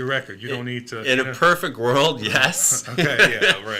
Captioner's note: laughing